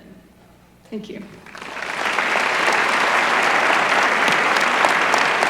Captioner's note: applause